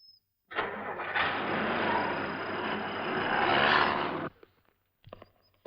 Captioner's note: engine starts